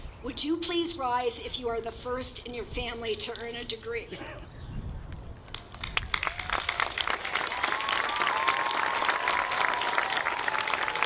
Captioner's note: applause